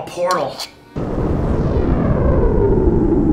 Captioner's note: sound of a fiery portal opening